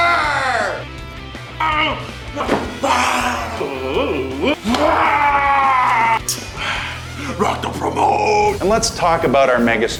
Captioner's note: growling